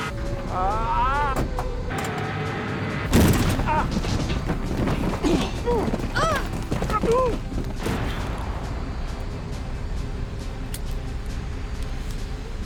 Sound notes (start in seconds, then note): 0.0 screaming; 3.5 screaming, Grunting; 10.6 seat Belt Clicks